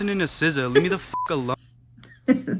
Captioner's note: laughing; beep